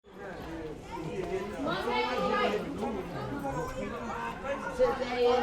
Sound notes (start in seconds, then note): 0.1 students chatting